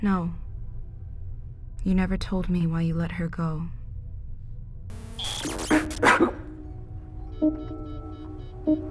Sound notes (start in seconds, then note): 5.4 coughs